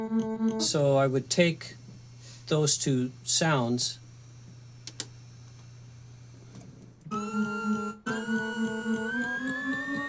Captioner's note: rhythmic sound effects; sound effects